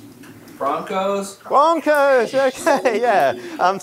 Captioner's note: laughter